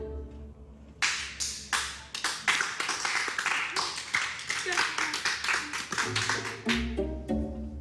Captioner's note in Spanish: Aplausos